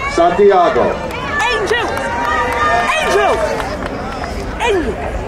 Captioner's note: crowd cheering